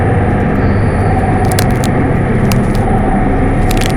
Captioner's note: bones cracking